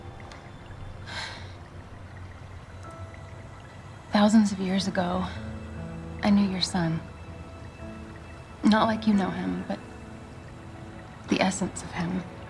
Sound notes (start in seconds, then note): 3.9 sighs